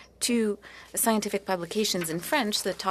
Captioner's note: speaking French